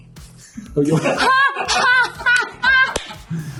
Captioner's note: laughter